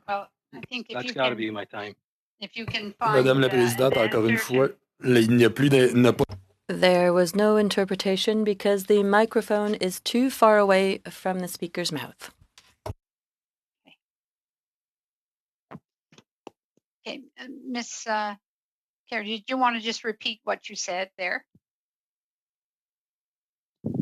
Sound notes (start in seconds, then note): 7.0 speaking French